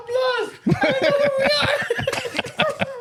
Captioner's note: laughing